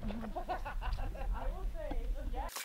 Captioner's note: laughter